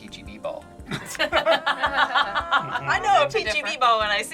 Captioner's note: group laughs